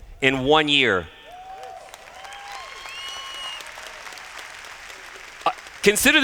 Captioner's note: cheers